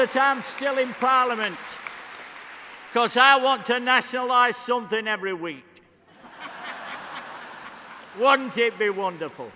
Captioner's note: applause; cheering